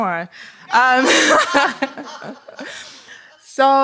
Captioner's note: laughter